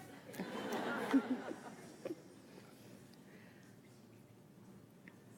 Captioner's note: audience laughs